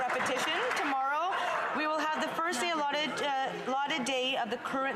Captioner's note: some Applause